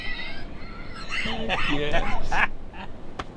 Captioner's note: laughing